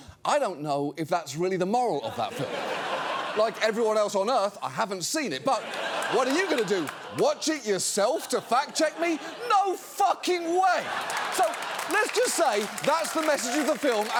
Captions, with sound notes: I don't know if that's really the moral of that film. (AUDIENCE LAUGHING) Like everyone else on Earth, I haven't seen it. -(AUDIENCE LAUGHING) -But what are you going to do? Watch it yourself to fact-check me? -No fucking way! -(AUDIENCE LAUGHING, CHEERING) So, let's just say that's the message of the film